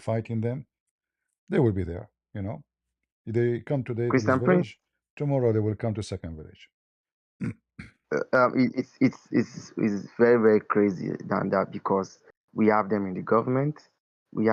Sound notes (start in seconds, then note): 8.1 berdehem; 8.1 batuk